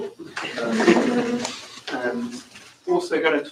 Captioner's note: laughter